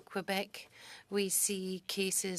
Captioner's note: speaking French